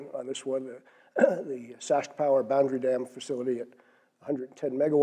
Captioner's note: cough